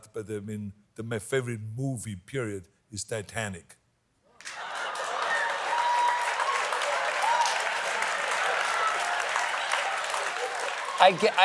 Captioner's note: applause